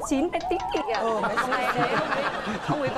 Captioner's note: laughing